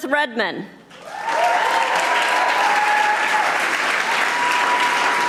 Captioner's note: audience applauding